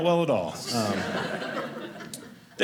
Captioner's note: audience laughing